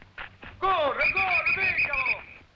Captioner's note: officers shouting in foreign language; whistle blowing